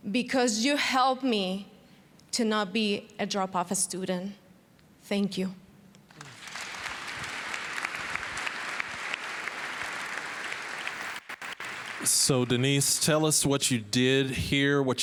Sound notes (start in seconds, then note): 6.1 applause